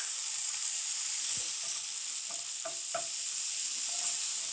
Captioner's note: pan sizzling